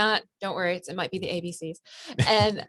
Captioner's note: laughs